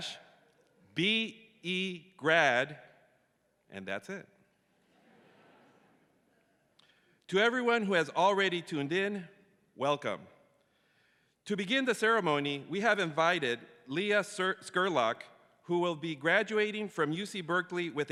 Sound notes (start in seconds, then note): 4.8 audience chuckles